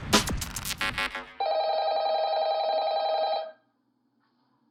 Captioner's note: telephone Ringing